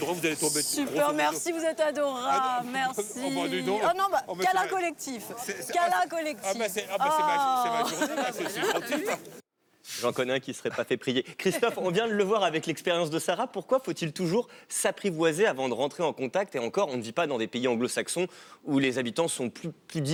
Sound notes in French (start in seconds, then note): 7.6 rires